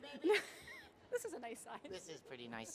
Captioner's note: laughs